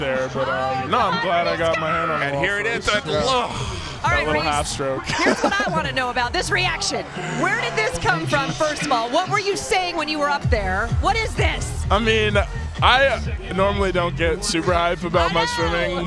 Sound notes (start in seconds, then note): 3.4 sighs; 5.2 laughs